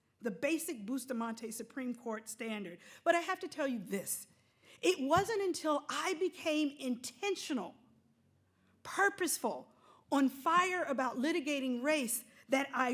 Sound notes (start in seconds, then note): none